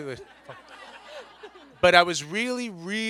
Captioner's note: everyone laughs